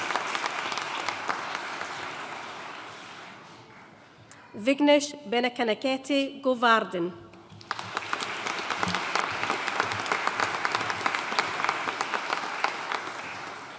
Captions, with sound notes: Vignesh Benakanakatte Govardhan. (AUDIENCE APPLAUDING)